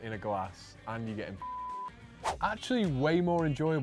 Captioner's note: beep